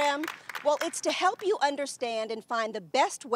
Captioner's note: applause